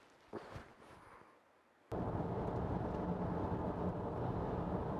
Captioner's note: car engine humming